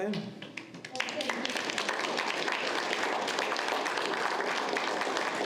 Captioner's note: audience applauds